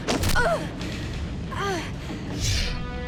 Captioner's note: Riley moaning; air whooshes